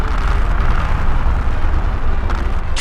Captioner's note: rumble, rumble, rumble; rumble, rumble, rumble, rumble, rumble